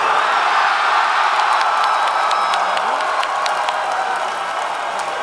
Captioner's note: crowd cheering